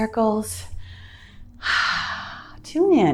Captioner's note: exhales loudly